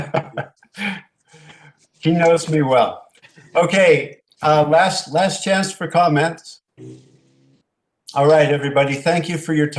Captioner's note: laughter